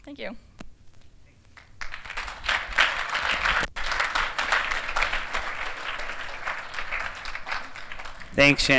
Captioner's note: applause